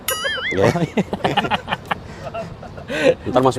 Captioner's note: laughter